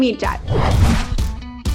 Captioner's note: logo whooshing; lively upbeat music